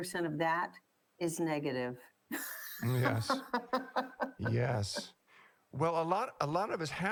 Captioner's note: laughter